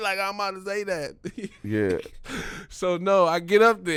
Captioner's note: laughing